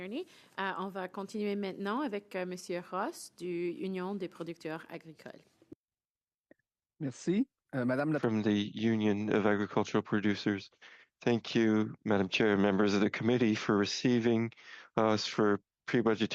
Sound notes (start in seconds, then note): 4.7 speaking French